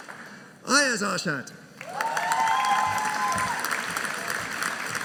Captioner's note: audience cheering